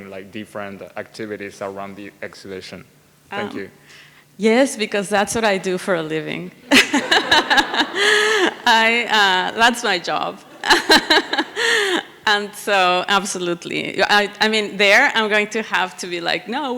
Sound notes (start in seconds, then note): 6.7 everyone laughs